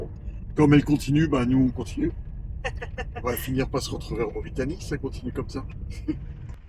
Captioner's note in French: rires